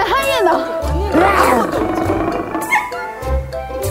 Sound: roar

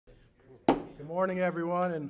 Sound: gavel taps

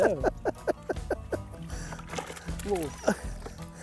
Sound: laughing

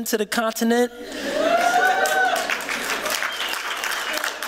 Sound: cheering

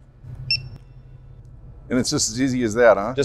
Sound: scanner beeps

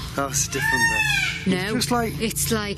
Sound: peacock squawking; peacock screaming

